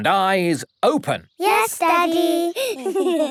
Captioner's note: giggling